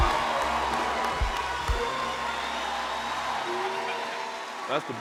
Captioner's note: cheers and applause continue